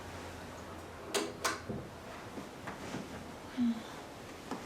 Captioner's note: light switch clicks